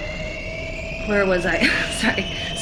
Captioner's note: giggles